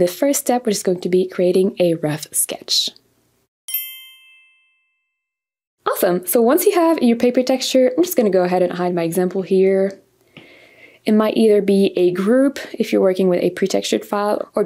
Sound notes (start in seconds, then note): 3.7 bells chiming